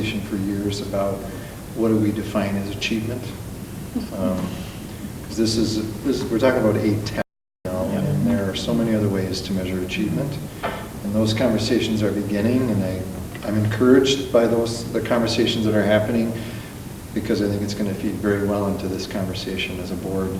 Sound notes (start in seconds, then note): 7.7 mic cuts out